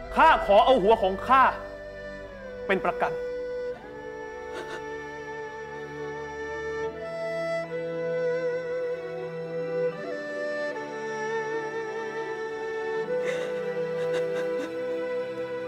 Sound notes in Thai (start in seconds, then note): 4.5 เสียงร้องไห้; 13.9 เสียงร้องไห้